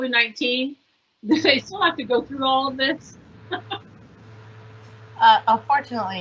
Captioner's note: laughs